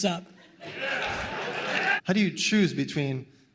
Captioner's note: cheering